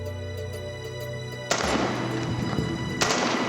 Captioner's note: rifle firing